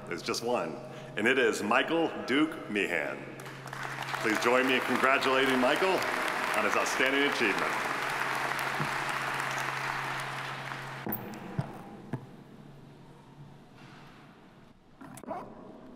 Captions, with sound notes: There's just one, and it is Michael Duke Meehan. (audience applauding) Please join me in congratulating Michael on his outstanding achievement.